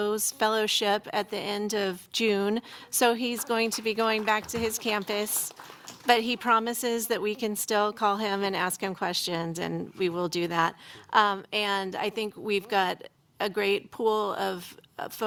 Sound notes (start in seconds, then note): 3.2 applause